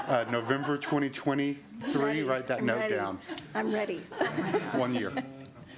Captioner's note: laughter